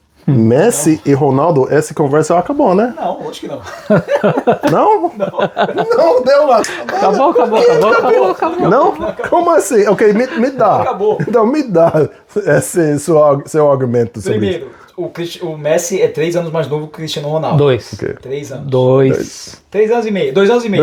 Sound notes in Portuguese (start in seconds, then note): 4.0 risadas; 9.0 risadas